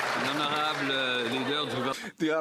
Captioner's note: some Applause